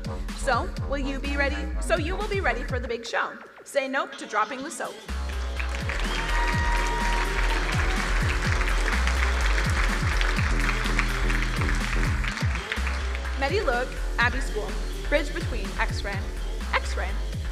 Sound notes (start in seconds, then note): 5.1 crowd cheering and applauding; 10.2 upbeat music